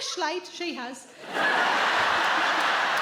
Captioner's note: audience laughs